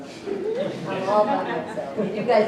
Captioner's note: laughter